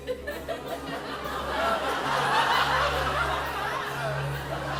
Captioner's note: laughter